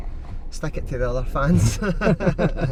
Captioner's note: laughs